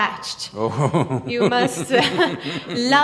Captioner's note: laughs